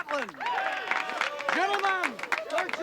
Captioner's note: cheering